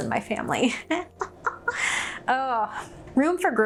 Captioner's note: laughing